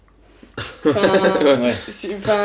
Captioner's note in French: ils rient